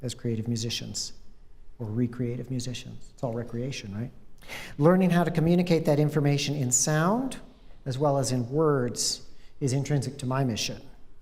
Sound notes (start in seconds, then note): none